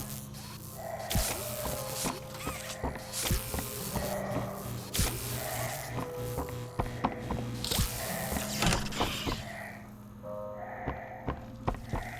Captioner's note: footsteps